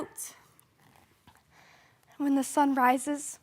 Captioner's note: soft breathing